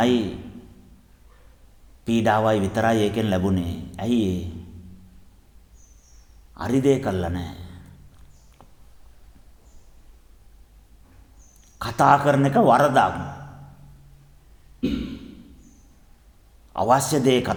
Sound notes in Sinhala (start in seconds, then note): 14.8 උගුර කෑරීම